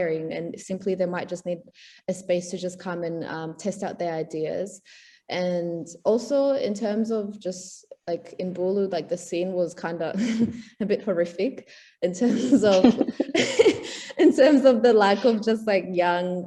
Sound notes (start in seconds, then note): 12.2 laughs